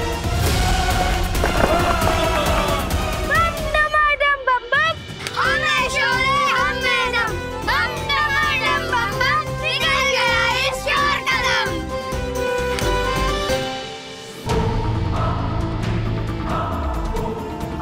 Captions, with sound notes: - [thud] - [moaning] We shall overcome! - We are mighty! We are one! - We are mighty! We are one! - We shall overcome! - We shall overcome! - We took down the thieves! - We took down the thieves! [triumphant music playing] [suspenseful music playing]